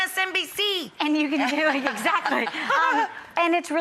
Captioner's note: laughing